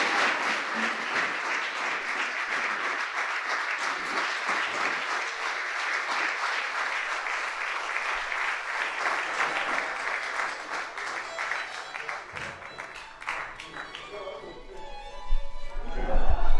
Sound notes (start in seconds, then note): 4.4 applause